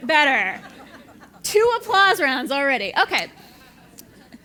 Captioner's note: laugh